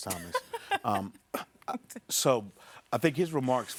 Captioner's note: laughing